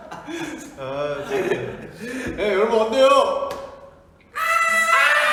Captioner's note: impersonates JH yell